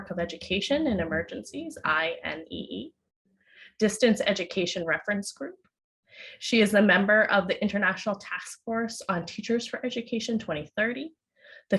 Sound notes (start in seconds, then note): none